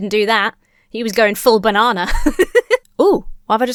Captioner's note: laughs